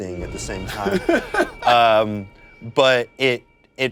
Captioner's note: laughs